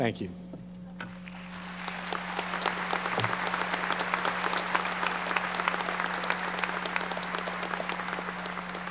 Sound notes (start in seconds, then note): 1.1 audience applauding